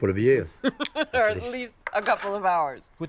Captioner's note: laughs